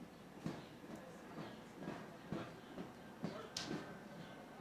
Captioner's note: soldiers marching